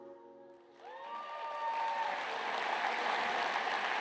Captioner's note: applause